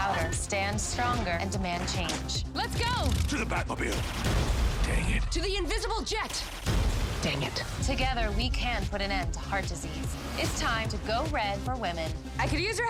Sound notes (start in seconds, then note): 6.6 bang